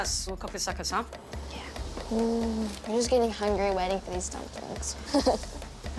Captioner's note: chuckles